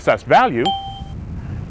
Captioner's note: ding